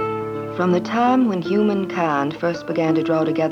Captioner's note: southern accent